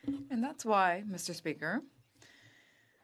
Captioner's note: speaking French